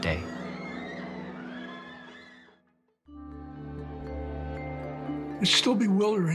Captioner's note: people screaming in panic